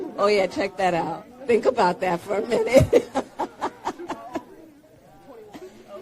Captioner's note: laughs